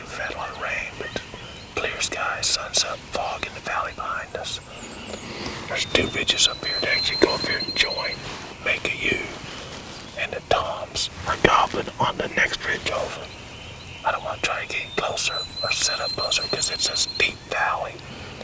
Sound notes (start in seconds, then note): 4.8 whispering